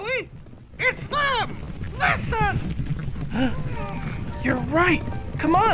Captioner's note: cascos golpeando